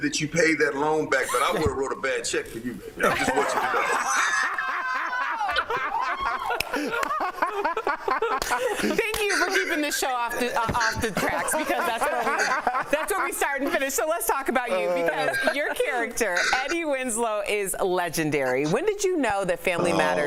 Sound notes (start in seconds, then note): 1.2 laughter; 12.2 laughter